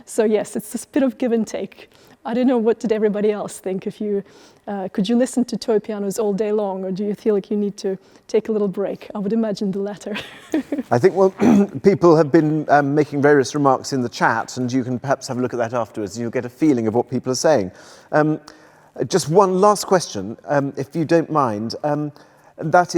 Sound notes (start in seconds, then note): 10.2 laughs